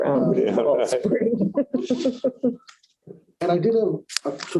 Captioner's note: laughter